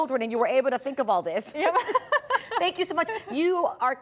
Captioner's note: laughter